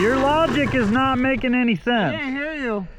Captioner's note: engine revving